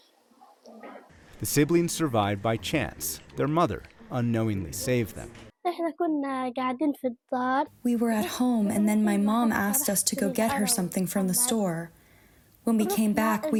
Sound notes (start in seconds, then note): 8.1 through translator